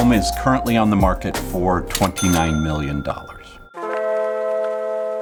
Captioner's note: register rings; mellow music